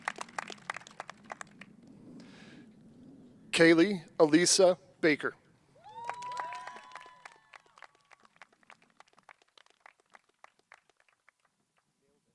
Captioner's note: cheers and applause